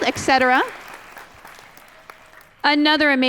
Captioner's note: applause